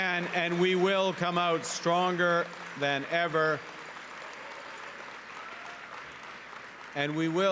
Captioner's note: cheering and Applause